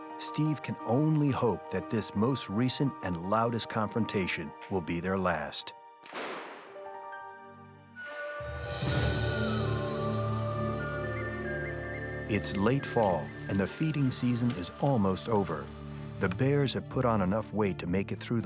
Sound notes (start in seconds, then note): 6.1 device exploding; 8.1 bright music